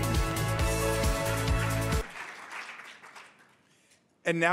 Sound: audience applauding

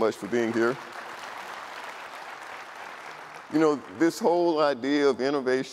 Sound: audience applauding

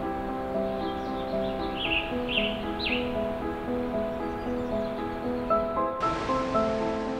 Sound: birds chirping; water rushing

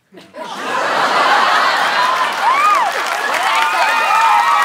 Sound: screaming

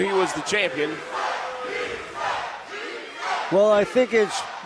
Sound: crowd chanting

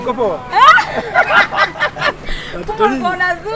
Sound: chuckles

